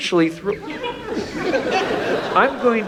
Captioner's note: audience laughs